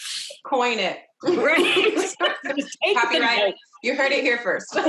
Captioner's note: laughs